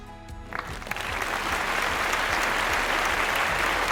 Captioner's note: audience claps